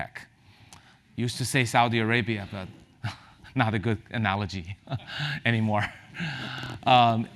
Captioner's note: laugh